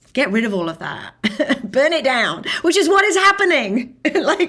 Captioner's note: laughing